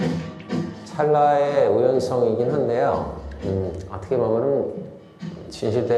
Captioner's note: speaking in Korean